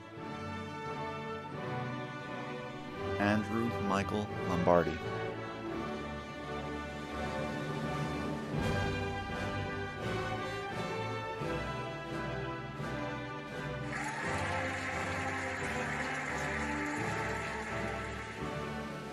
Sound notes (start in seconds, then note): 0.1 cheerful music; 5.7 cheerful music; 13.8 cheering and applauding